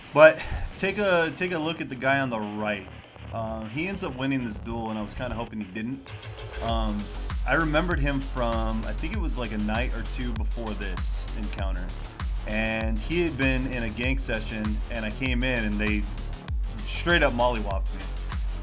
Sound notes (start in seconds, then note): none